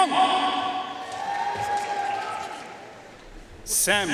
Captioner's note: audience cheering and applauding